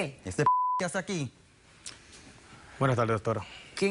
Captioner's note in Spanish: Bip